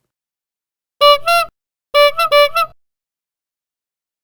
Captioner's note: bicycle Horn